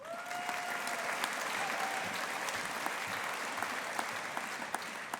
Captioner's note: audience applauding